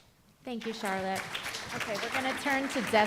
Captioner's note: applause